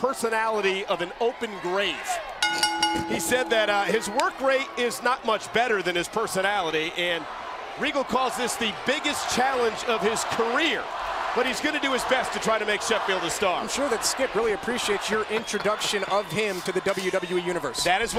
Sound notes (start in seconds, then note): 2.4 bell ringing